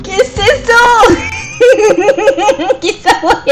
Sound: laughs

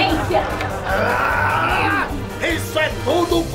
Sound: screams

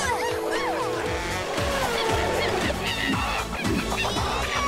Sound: monkey cries

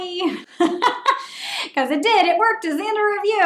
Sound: laughing

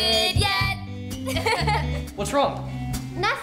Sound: nervous giggles

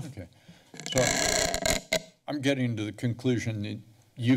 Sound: mic scratch

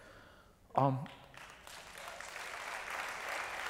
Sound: applause

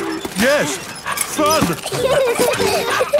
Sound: straining; peppa and george laughing

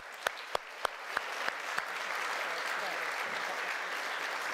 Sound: audience applauding

